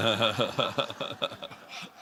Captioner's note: laughter